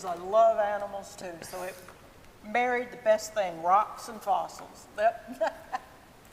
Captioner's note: laughs